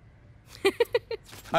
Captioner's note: Laughs